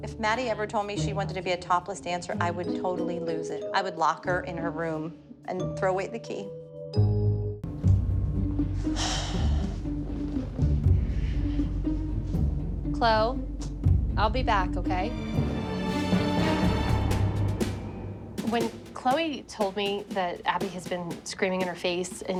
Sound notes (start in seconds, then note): 8.7 sighing; 15.1 dramatic music